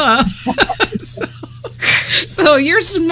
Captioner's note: laughter